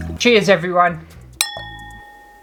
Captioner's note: clink!